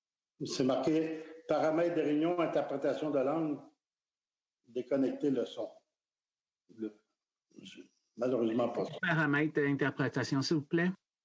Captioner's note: speaking French